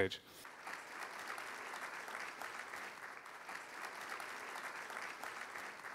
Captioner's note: applause